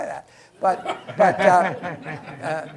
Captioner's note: laughter